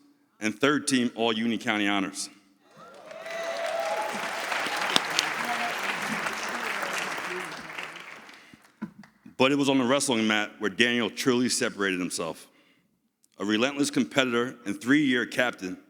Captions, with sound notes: and third team all Union County Honors. (audience cheers) But it was on the wrestling mat where Daniel truly separated himself. A relentless competitor and three-year captain,